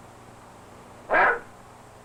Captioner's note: barking